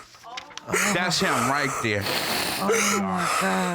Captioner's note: sobbing